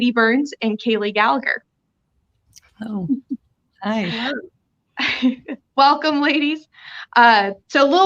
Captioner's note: laughter